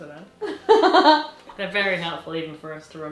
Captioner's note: laughs